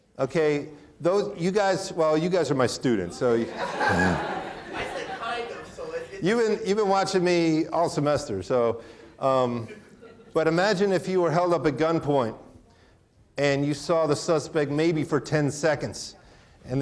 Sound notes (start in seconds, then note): 3.0 audience laughing; 5.5 speaking off microphone